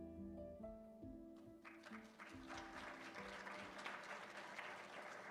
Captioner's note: applause